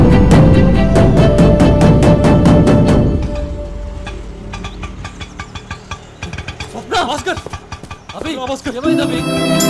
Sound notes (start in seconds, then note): 2.9 auto-rickshaw arriving